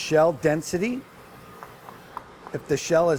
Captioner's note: quiet knocking